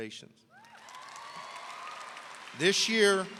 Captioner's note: audience cheering